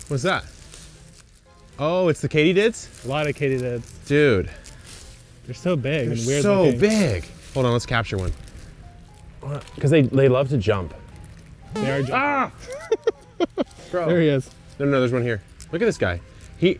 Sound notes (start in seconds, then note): 11.7 cartoon jumping sound; 12.2 laughs